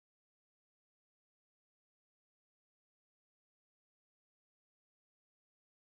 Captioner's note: car